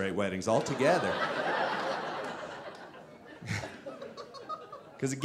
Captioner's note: audience laughing